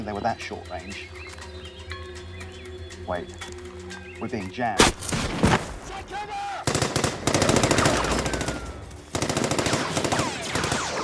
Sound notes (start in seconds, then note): 4.8 gunshots whooshing; 6.8 gunshots blasting